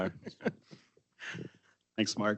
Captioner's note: people chuckling